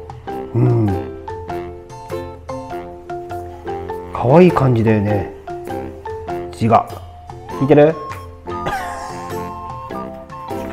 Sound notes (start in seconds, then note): 8.6 laughs